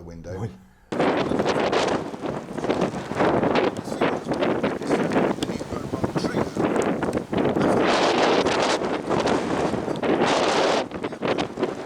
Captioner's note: wind noise